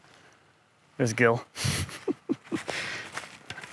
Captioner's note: laughs